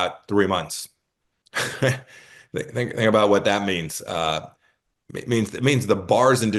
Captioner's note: laugh